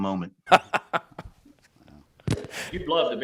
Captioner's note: Shane laughs